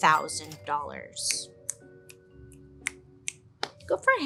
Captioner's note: cash register ringing; clicking fingers